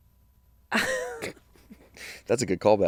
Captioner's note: laugh